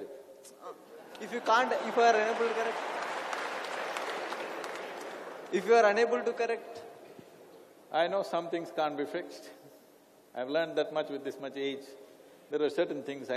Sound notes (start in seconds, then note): 1.0 laughter; 3.7 laughter/Applause